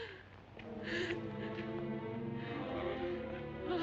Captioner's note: mary weeps